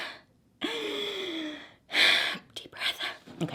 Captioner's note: breathes deeply